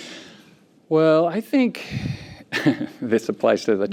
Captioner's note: laughs